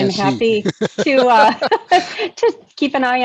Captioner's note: laugh